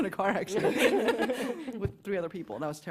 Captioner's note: laughter